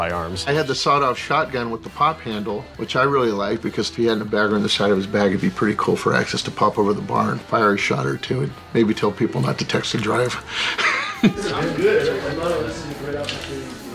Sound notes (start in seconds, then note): 10.3 laughs